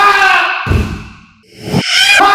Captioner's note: bam